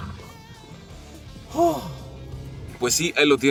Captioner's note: squealing tyres; sighs